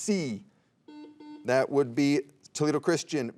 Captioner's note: soft beeping